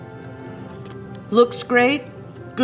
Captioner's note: cookie crunches